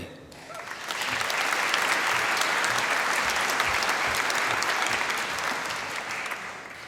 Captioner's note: applause